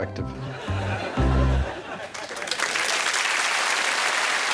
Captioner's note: laughter; applause